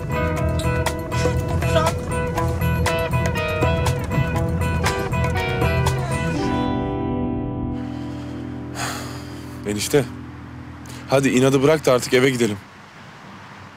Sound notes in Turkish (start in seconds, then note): 2.6 Araba sesi; 7.7 Nefes sesi